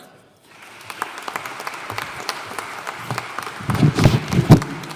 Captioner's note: audience applauding